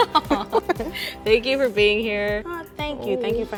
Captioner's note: laughs